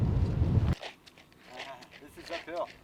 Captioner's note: feet tapping